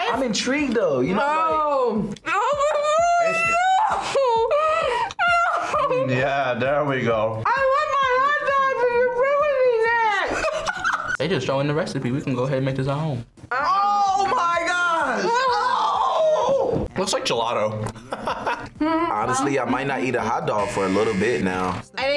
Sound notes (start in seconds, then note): 10.4 laughs; 17.9 laughs